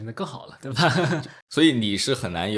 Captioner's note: laughs